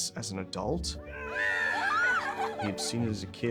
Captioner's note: laughing, cheering